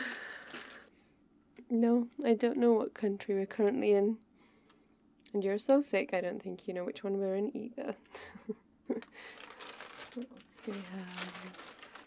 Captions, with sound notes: *sarcastically* No, I don't know what country we're currently in and you're so sick I don't think you know which one we're in either *bag rustling* what else do we have...